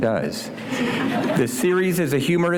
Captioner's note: laughter